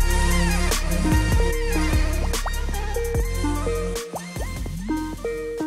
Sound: Skype phone ringtone

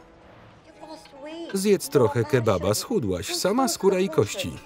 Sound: speaking foreign language

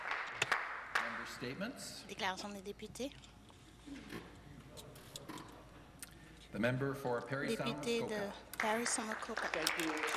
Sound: some Applause

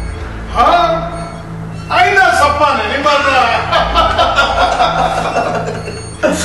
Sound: laughter

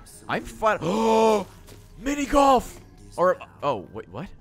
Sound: gasps

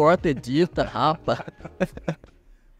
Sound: laughs

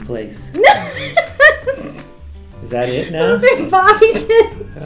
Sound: laughs

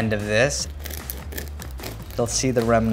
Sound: knife rustles

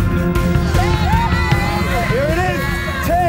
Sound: warm pensive music; partygoers cheering

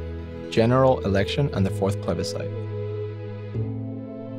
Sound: voiceover

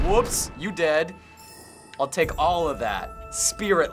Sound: in game: chime

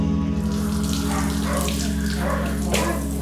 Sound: running water

